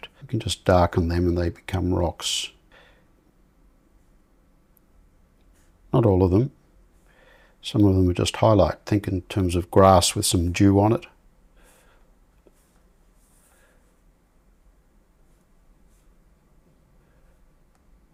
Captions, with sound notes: you can just darken them and they become rocks. [silence] Not all of them. Some of them are just highlight, think in terms of grass with some dew on it.